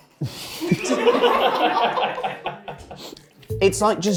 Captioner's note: chuckles; crew laughing